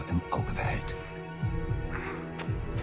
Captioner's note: boys grumbling